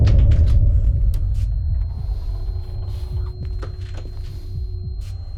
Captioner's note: heart beat and heavy breathing